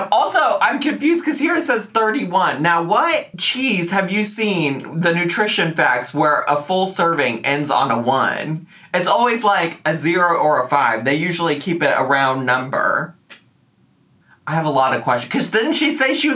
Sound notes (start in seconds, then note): none